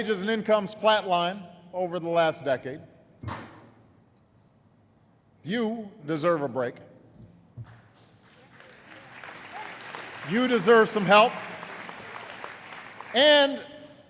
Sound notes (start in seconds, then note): 7.7 applause